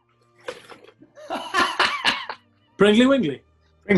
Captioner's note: laughter